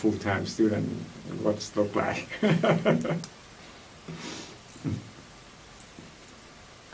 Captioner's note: laughs